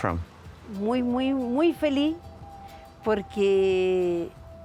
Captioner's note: speaking Spanish